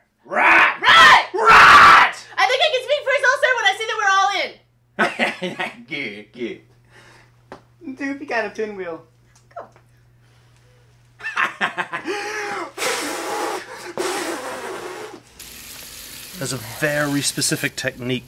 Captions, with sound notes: Right? Right! Riiiiight! I think I can speak for us all sir when I say that we're all in. Ha ha, good, good. Doopey got a pinwheel. (laughs) (blows) There's a very specific technique.